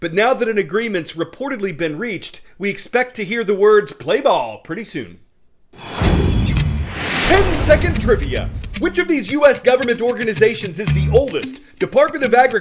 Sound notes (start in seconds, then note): 6.1 voice-over